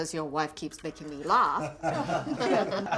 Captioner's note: all laughing